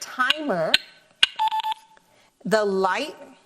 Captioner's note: game beeps